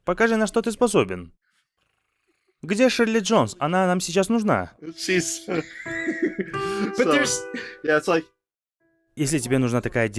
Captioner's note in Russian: смех